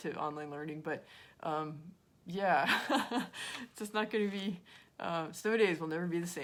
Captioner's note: laughs